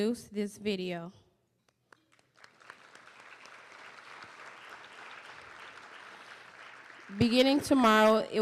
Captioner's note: applause